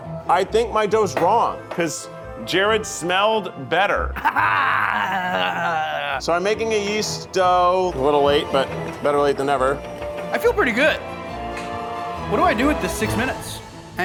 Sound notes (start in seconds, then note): 4.1 laughs